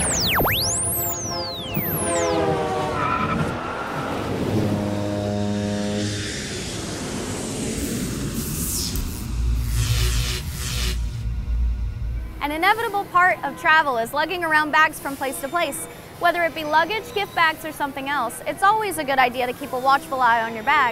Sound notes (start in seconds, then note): 3.2 car sounds; 3.3 train sounds; 4.2 cruise ship sounds; 5.2 airplane sounds; 8.3 electric sounds